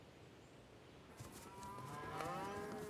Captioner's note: mooing